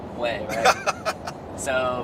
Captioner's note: laughing